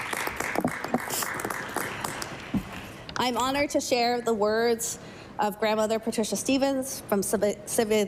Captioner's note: applause